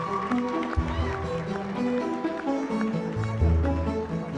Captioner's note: cheers and applause